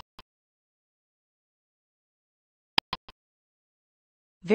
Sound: click sound

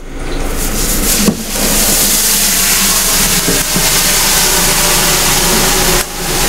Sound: fizzling

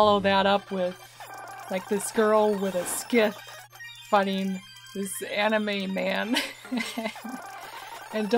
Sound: laughing

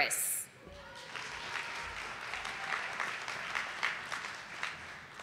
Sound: audience applauding

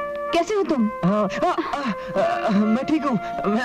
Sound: groans

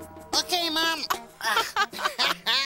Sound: both laughing

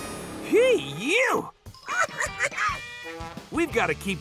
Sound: giggling

